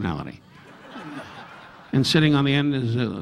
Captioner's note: audience laughing